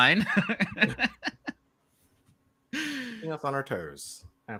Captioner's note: chuckles